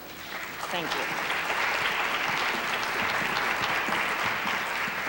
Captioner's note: applause